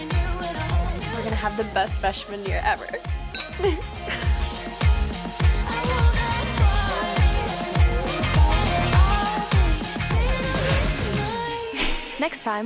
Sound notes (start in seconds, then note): 3.3 glasses clinking